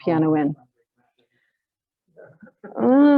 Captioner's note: laughs